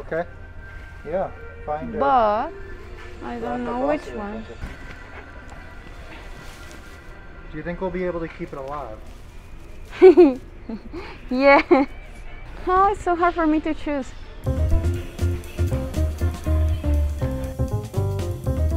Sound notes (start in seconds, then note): 9.9 laughs; 14.4 lively music